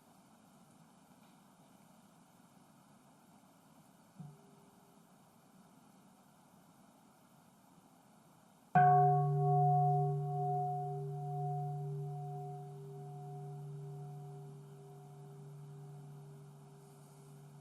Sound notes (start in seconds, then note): 8.7 bell rings